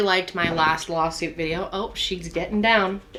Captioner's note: feet thudding